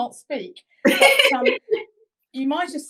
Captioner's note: laughing